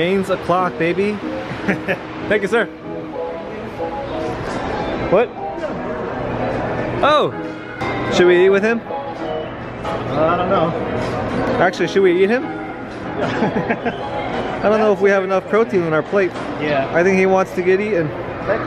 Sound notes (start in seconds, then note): 13.2 laughs